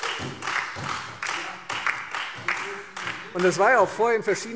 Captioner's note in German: Beifall Freie Demokraten und vereinzelt SPD